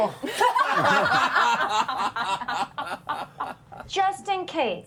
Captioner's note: laughter